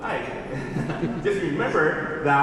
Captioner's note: laughs